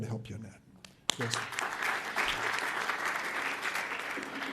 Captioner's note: audience applauds